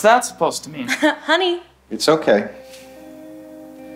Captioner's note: chuckles